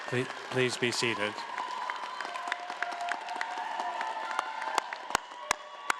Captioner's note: audience applauding and cheering